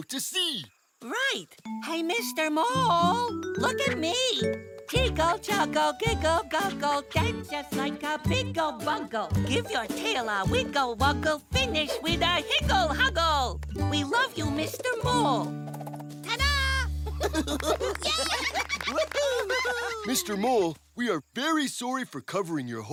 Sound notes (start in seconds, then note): 17.0 giggling; 17.3 applauding